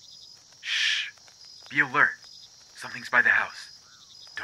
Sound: shush

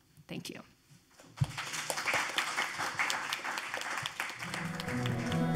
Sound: audience applauding; whimsical instrumental music playing

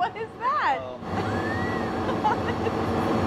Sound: fan blowing; laughing

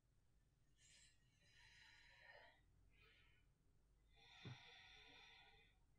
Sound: deeply breathing

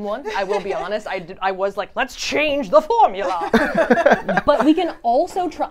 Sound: everyone laughs

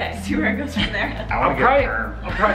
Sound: chuckles

